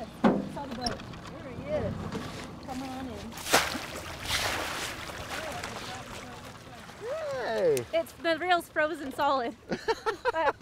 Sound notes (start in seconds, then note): 4.3 fish splashing